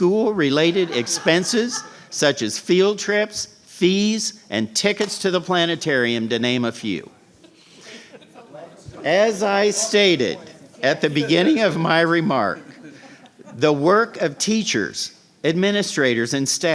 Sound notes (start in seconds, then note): 7.8 laughter